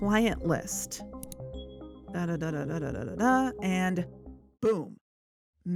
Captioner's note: click